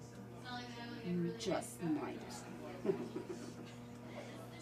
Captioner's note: maniacal chuckle